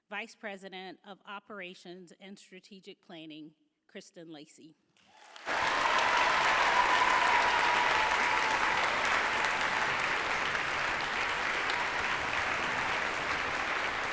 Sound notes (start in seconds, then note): 5.2 audience applauds; 5.3 audience cheers